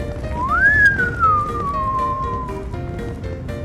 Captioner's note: whistling